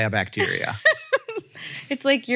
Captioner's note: Rachel laughs